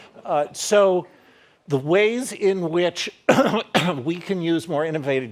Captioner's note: coughing